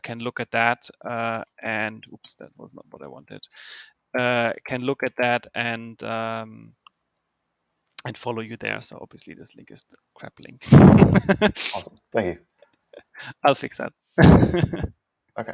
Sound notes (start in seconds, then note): 10.6 laughs; 14.2 laughs